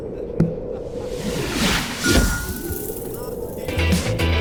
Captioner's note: landing sound